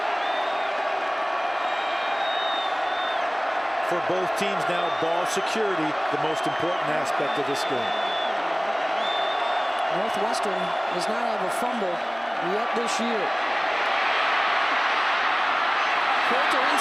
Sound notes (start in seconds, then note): 8.3 applause